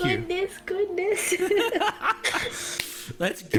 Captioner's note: all laugh